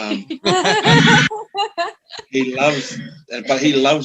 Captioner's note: all Laughing